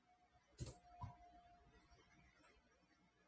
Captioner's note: typing